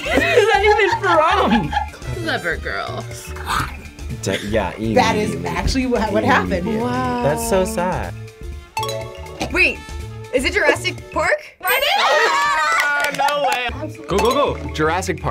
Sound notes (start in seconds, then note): 8.8 bell dings; 11.7 yell; 11.8 bell dings